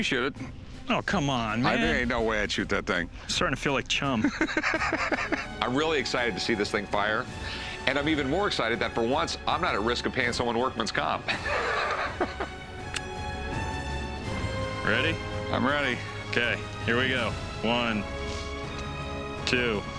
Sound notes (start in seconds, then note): 4.1 Rick laughing; 12.0 adventurous music